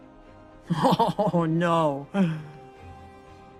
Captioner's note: laugh